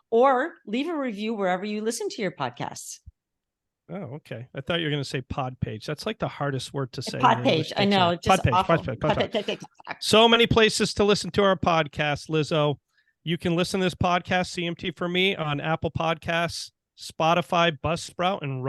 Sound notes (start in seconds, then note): 9.1 vocalizing